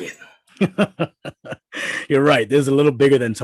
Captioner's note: boss laughing